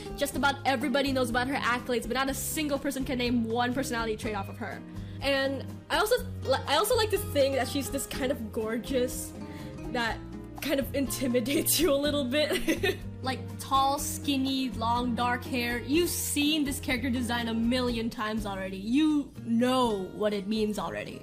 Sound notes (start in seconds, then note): 12.4 giggle